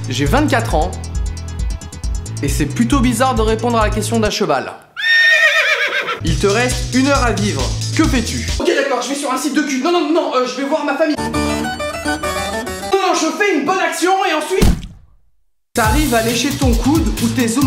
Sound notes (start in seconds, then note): 4.9 whinnying; 14.6 explosion